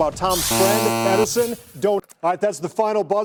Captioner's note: buzzer